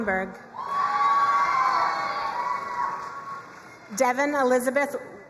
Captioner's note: crowd cheering and applauding